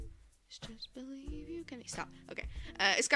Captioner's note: a soft adorable humming